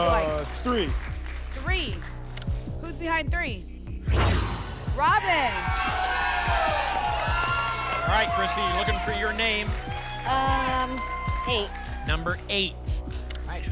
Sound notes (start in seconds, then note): 4.0 whoosh; 6.4 applause and cheering